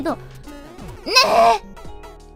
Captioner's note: in a cute voice